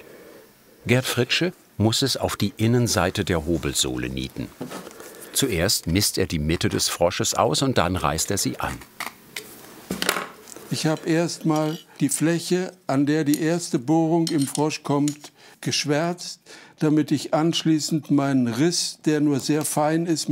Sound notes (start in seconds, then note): none